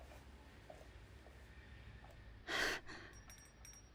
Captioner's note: receding footsteps, bell ringing